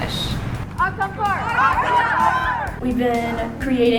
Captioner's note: students yell in Spanish